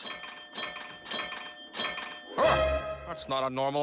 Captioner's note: ringing continues